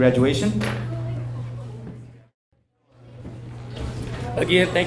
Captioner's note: people chattering